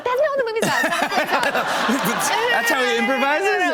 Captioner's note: laughter